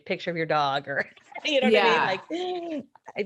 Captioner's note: laughing